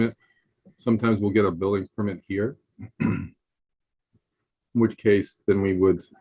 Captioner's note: clearing throat